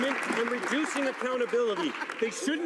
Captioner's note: some Applause